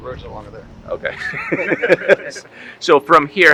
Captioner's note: chuckling